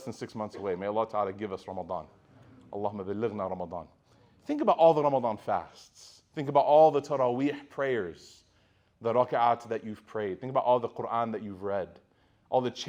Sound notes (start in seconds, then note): 2.5 speaking Arabic